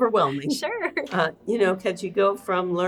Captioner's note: laughs